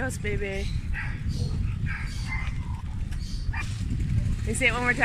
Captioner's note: dogs barking